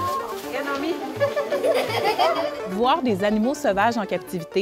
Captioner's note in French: rires